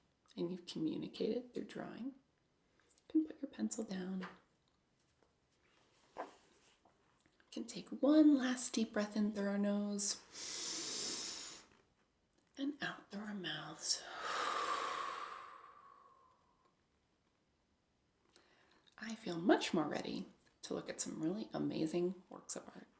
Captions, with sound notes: and you've communicated through drawing, you can put your pencil down. We can take one last deep breath in through our nose *breathes* and out through our mouths *exhales* I feel much more ready to look at some really amazing works of art!